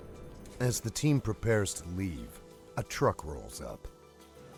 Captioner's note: voiceover